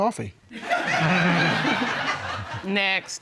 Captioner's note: laughter